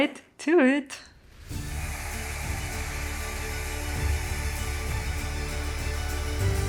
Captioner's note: machine whooshing